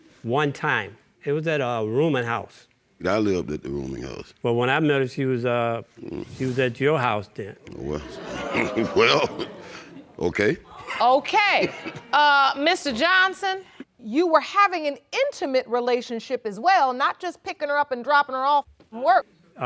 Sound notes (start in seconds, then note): 7.6 laughing; 7.6 audience gasping